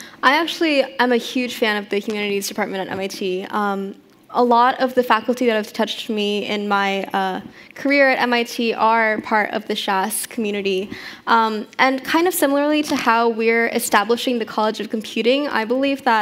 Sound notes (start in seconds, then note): none